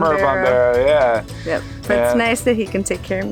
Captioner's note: speaks foreign language